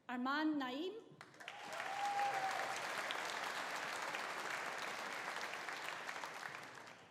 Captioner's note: audience applauding; audience cheering